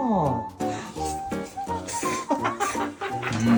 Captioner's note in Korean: 후루룩